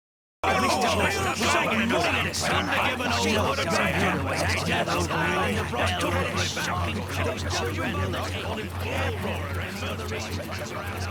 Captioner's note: multiple hobarts shouting over each other